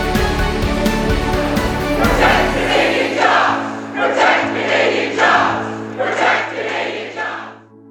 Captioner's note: chanting